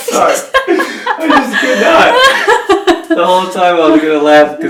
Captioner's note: laughter